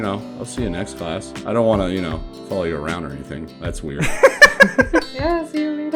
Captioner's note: laughter